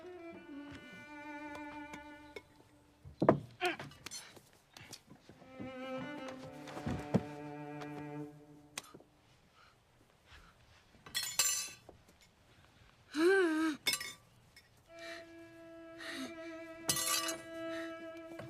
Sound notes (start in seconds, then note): 12.6 moans